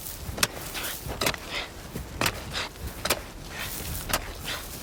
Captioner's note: panting